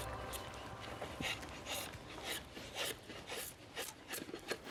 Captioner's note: wood creaking